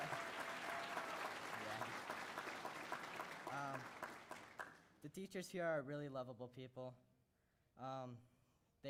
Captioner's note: cheers and applause